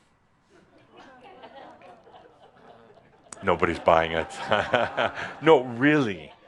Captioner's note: a couple of chuckles; chuckles